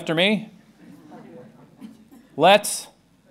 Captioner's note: laughter